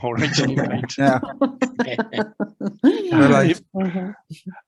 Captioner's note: everyone laughing